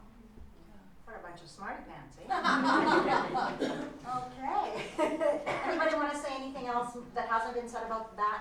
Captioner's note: laughter